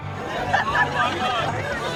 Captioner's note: laughing